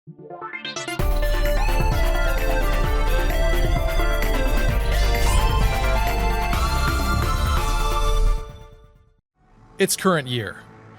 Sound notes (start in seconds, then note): 0.8 intro music; 4.9 sword slash; 6.6 intro jingle